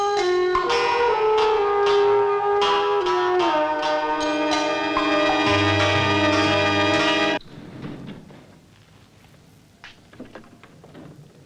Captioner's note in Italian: campana